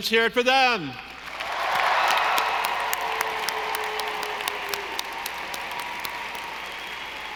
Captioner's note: audience applauding; audience cheering